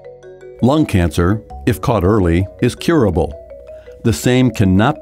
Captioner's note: voiceover